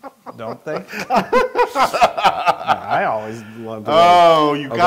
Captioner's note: laugh